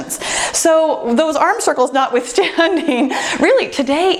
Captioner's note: laughs